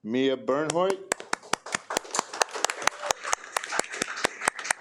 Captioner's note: attendees applaud